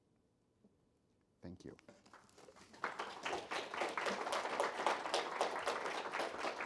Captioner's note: audience clapping